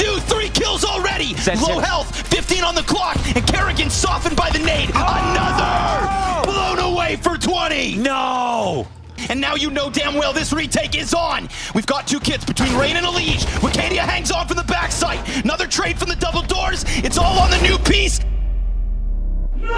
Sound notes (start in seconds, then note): 4.8 player screaming